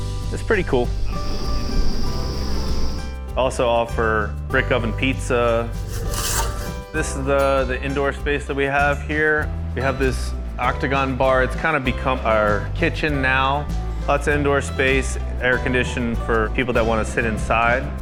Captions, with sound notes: it's pretty cool. [Bees buzzing] Also offer brick oven pizza. This is the indoor space that we have here. We have this octagon bar. It's kind of become our kitchen now. Lots of indoor space and air conditioned for people that want to sit inside.